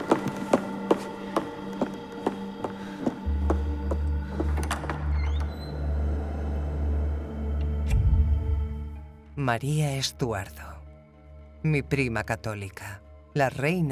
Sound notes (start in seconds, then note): 3.4 door creaks; 7.8 dramatic music